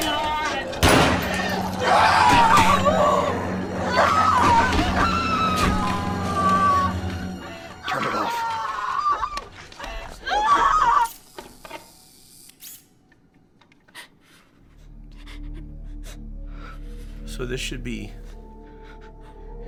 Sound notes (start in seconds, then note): 2.8 Caron screams